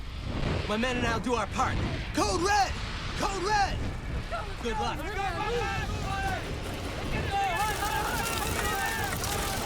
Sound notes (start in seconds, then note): 5.0 men shouting